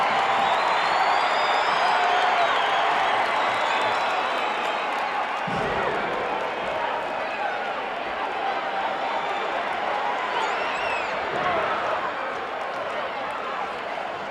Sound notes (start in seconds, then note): 4.2 audience chattering continues